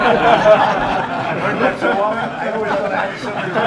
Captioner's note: laughter